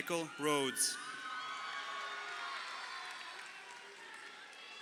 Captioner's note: crowd cheering